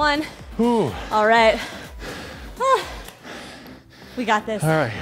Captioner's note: breathes heavily